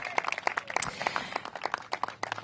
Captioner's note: applause